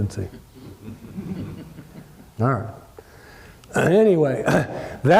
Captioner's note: laugh